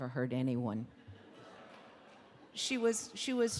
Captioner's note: audience laughing